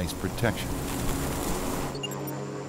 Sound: engine whirring; electronic tone; engine whirring

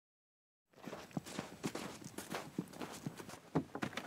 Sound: footsteps brushing snow

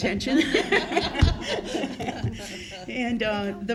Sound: laughter

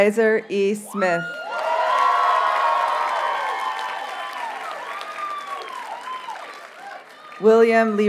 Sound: audience cheers and applauds

